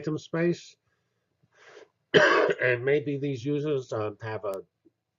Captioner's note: cough